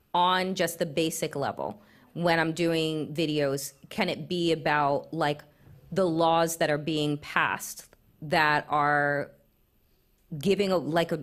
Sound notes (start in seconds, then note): none